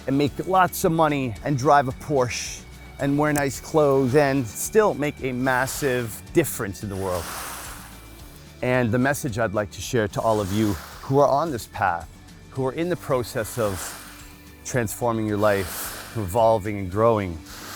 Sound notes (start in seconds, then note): 7.2 water splashes; 12.7 water splashes